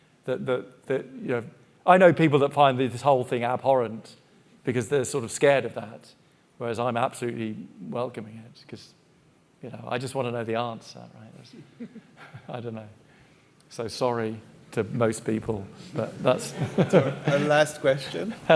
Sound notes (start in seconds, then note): 11.7 audience member chuckling; 16.2 chuckles